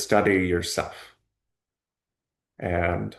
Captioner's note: pause